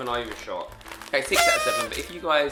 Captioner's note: party horn